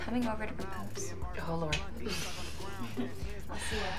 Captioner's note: Kristen chuckles